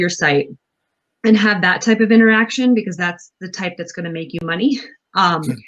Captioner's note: laughs